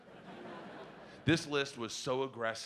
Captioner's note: audience laughing